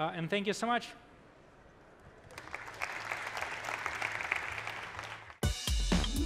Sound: applause

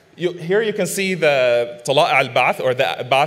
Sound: man speaking foreign language

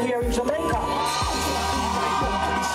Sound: crowd cheering; soca music continues

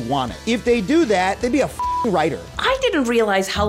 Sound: beep

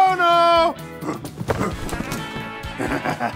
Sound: grunting; low laughing

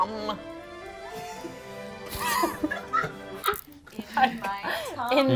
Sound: both laughing

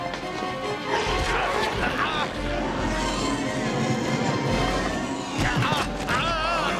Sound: dramatic music; yelling and grunting

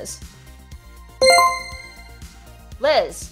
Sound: chime rings

